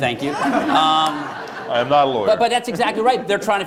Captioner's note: laughter